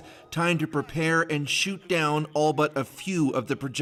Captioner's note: sirens